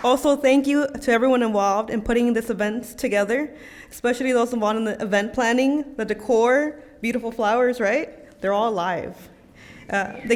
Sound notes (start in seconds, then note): none